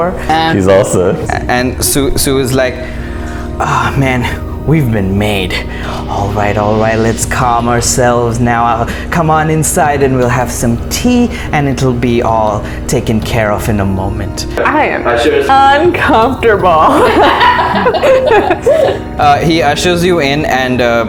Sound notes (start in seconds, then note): 16.9 laughter